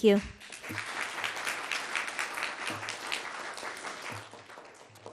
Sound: audience clapping

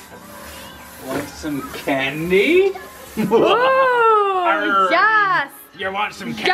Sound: laughs evilly

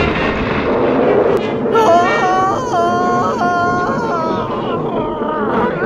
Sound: Mr. Stone Screaming

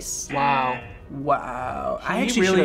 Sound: buzzer rings

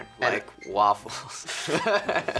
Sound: laughs

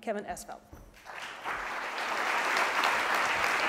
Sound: applause

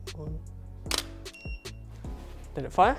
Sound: camera shutter clicks

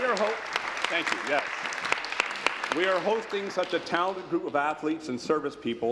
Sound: applause

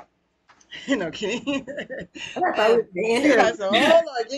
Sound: laughs

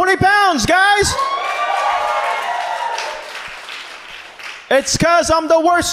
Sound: audience cheers

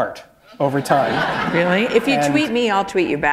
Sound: laughter

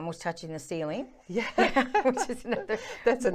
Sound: laughter

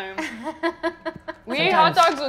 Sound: laughing

